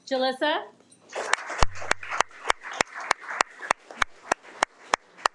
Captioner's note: audience applauding